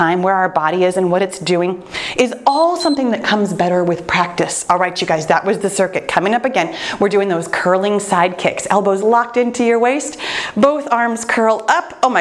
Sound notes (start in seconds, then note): 2.4 timer beeps